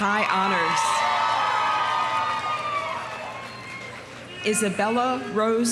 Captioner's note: audience cheering; audience applauding